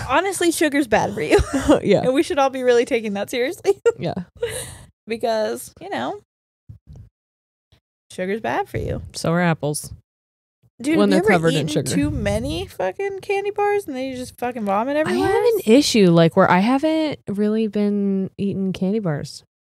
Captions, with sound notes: - Honestly, sugar's bad for you. And we should all be really taking that seriously. (giggles) Because you know, sugar's bad for you. - So are apples when they're covered in sugar. - Dude, you ever eaten too many fucking candy bars and then you just fucking vomit everywhere? - I have an issue where I haven't really been eating candy bars.